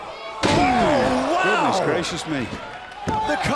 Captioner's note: crowd cheering